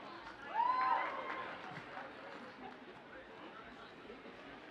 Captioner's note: audience cheers